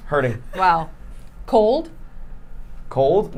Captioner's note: laughing